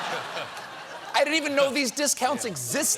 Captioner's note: laughter